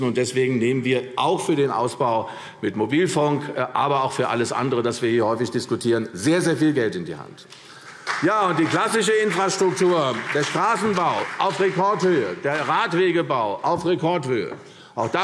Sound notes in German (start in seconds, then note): 7.7 Beifall CDU und BÜNDNIS 90/DIE GRÜNEN; 13.7 Beifall